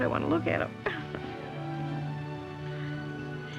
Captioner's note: chuckles